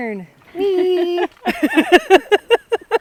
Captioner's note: laughs